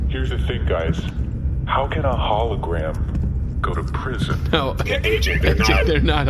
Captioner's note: laughing